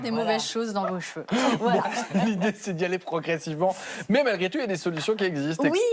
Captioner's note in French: rires